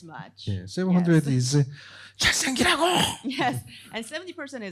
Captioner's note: speaking korean